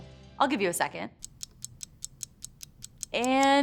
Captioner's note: timer ticking